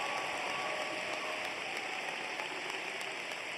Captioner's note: cheers and applause